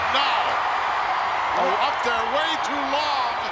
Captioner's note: crowd cheers